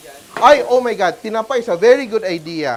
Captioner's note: sizzles